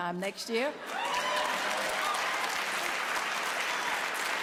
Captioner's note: applause